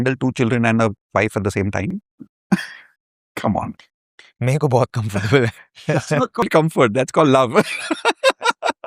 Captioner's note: laughter